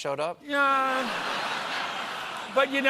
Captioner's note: laughter